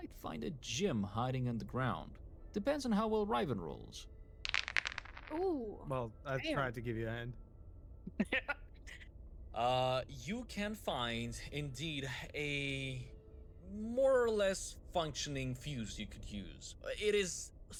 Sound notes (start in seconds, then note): 8.1 laughs